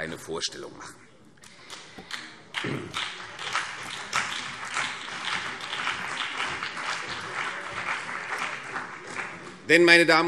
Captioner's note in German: Vereinzelter Beifall CDU und BÜNDNIS 90/DIE GRÜNEN